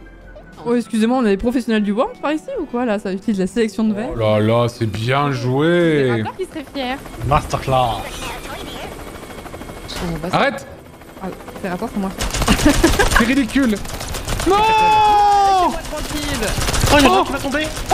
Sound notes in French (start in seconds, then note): 8.6 bruit d'hélico; 12.1 l'hélico commence à tirer